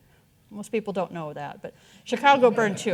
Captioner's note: audience chuckling